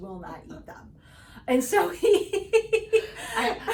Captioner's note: laughing